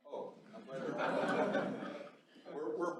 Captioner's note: laughter